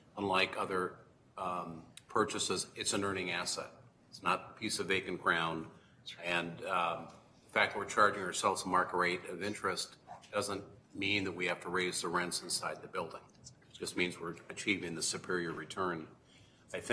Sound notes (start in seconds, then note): none